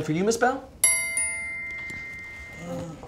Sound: tink bells

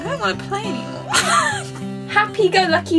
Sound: laughs

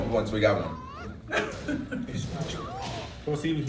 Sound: laugh

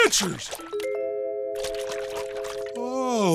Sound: sloshing

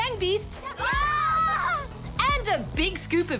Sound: all shout

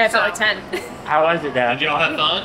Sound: laughs

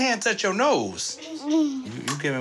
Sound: muffled laughter

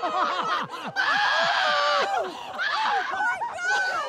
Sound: laughing

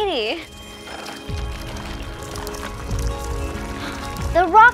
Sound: crackling noise

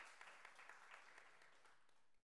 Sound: applause

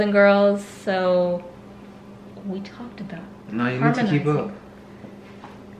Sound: whispering

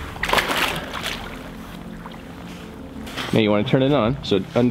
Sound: water splashing

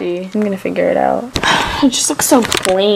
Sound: sigh

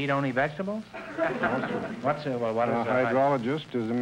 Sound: audience laughter

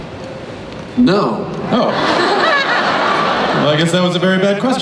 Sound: crowd laughs

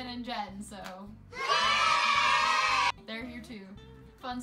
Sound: children cheering

